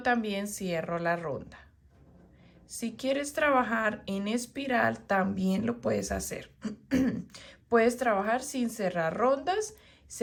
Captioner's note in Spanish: carraspeo